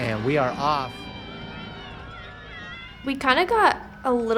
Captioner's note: crowd cheering